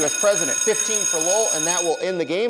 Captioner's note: bell rings